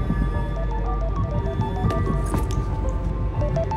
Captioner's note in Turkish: Telefon çalıyor